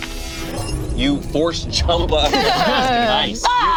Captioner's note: laughs